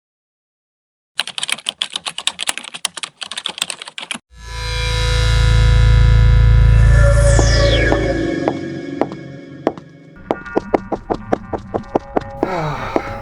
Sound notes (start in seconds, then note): 1.2 keyboard Typing; 9.6 foot Steps/Laboratory Humming